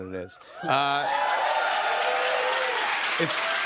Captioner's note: cheers and applause